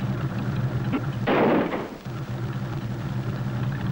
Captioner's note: loud crashing